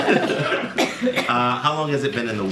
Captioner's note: laughter